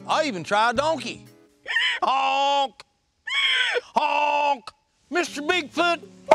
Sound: donkey calls; bird calls

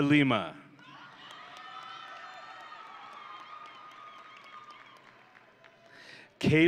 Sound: audience and graduates cheering

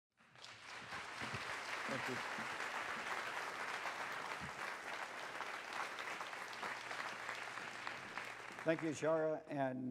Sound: applause

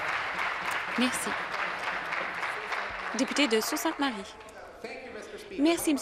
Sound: applause

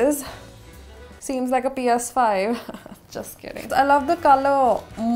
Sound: chuckles

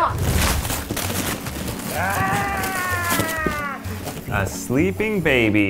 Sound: paper ripping

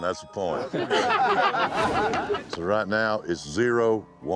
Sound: everyone chuckling

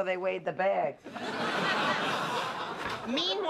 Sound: laughter

